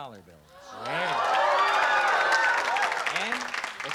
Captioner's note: cheering